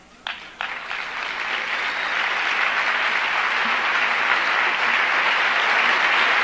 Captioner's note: applause